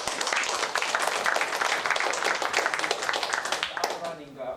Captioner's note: applause